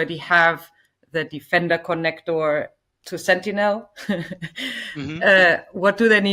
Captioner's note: laughs